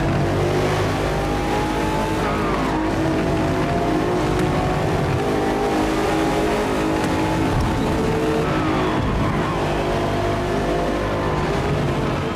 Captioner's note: engine roaring